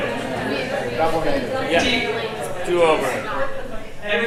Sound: audience chattering

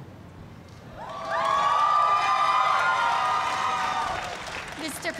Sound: cheers and applause

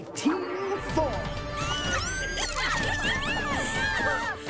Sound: all squealing

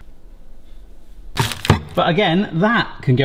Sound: bowl placing

